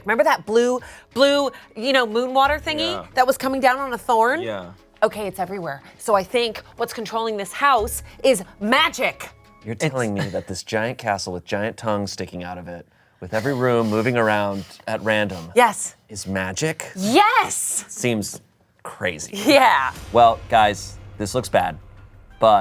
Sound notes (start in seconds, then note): 19.9 laughs